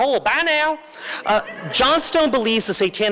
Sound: laughter

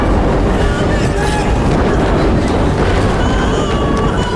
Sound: woman yelling; moaning

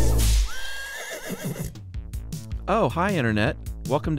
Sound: horse neighing

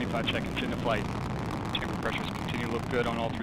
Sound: engine noise

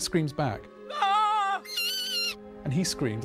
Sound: both scream

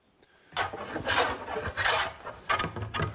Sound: planing noises

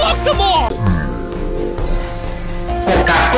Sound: guttural groan

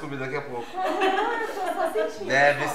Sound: laughter

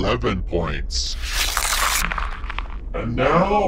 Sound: cards whooshing; paper ripping

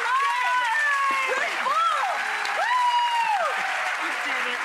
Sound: clapping and cheering

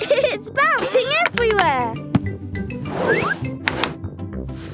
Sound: laughing

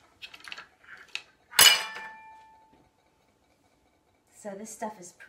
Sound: glass clutters

